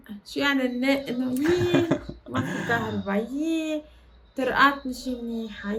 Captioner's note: laughs